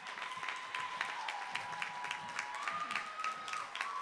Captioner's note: applause